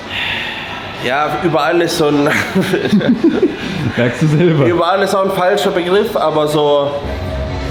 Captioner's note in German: gelächter